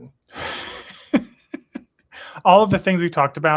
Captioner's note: laughs